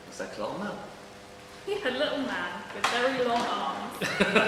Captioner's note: laughs